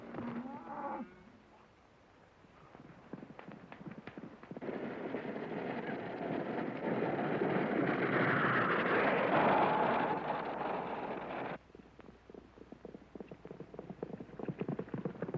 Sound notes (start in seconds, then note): 4.6 wagon rattling; 5.1 hooves pounding